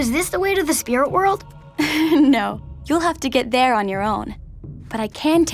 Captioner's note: giggles